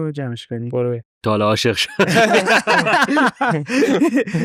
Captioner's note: laughs